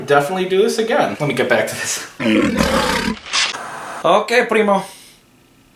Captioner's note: gloating; speaking in Spanish